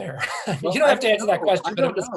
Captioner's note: laughing softly